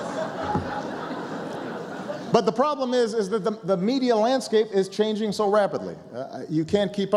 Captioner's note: laughter